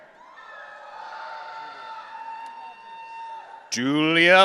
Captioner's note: audience cheering